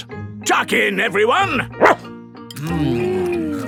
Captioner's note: barks